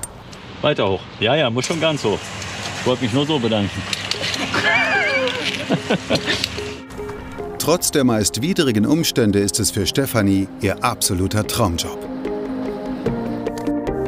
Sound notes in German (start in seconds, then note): 4.2 Lachen